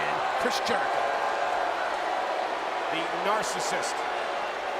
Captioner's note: crowd booing